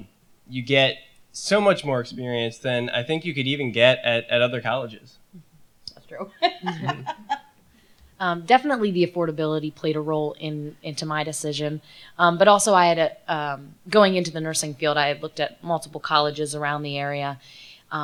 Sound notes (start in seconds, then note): 6.3 laughter